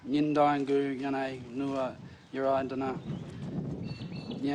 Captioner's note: speaks Indigenous language